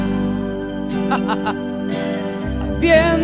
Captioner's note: laughs